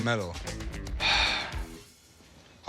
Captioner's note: sighs